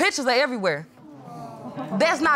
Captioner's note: audience exclaiming